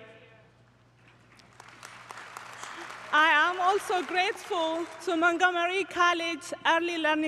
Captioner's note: applause